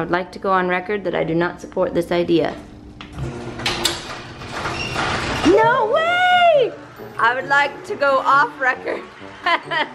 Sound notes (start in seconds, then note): 3.1 garage door opening